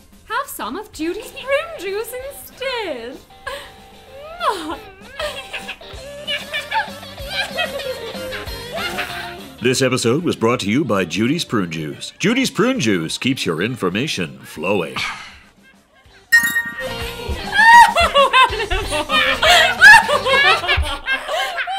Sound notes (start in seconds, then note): 3.4 Goodbrarian and Animal laugh; 17.6 Goodbrarian and Animal laugh